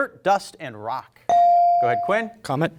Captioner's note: bell rings